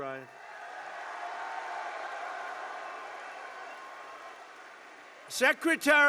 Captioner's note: applause